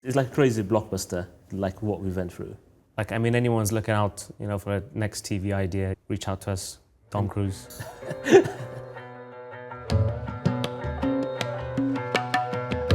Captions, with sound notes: - It's like a crazy blockbuster, like what we went through. - Like I mean, if anyone's looking out for a next TV idea, reach out to us, Tom Cruise. (both laughing) (rhythmic music)